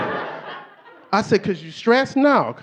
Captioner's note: audience laughing